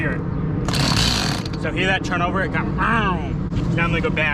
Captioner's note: makes weird saw noise